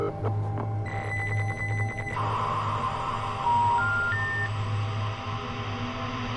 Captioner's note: static buzzing; high pitched ringing